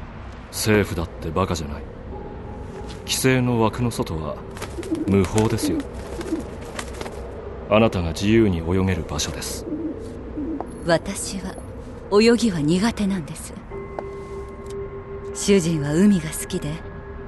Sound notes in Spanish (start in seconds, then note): 4.5 arrullo de palóma, aleteo; 9.2 arrullo de palóma